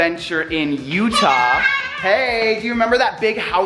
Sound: excited yelling

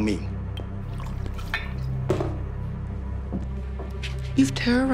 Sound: liquid pouring and glass clanks

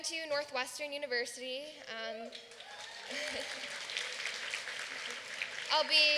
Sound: applause

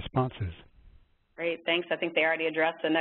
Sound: voiceover

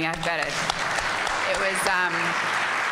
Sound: applause

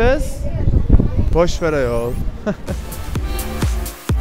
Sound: laughs

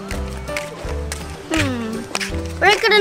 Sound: footsteps

